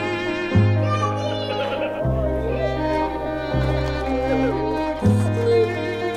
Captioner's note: soldier laughs